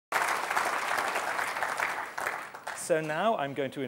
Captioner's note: applause